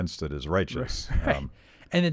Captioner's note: laughs